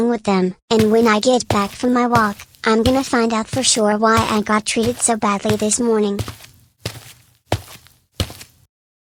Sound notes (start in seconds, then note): 5.7 footsteps